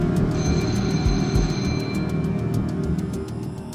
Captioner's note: ringing